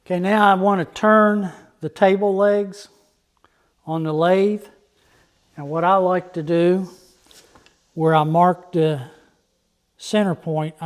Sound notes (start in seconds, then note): none